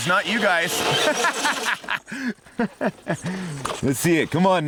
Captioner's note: laughing